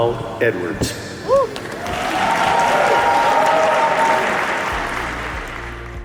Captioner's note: cheering; applause